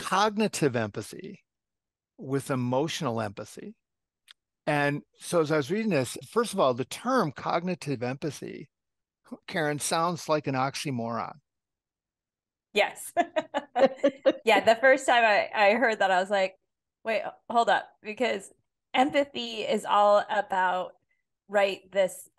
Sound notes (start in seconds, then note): 13.2 laugh